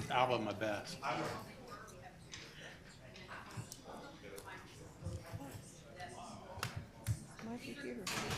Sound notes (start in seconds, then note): 0.0 group chatter